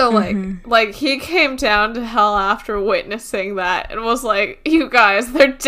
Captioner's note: laughs